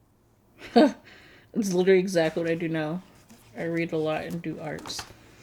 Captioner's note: laughs